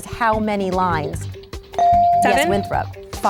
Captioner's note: ding